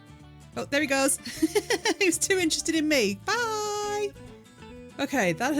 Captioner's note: laughing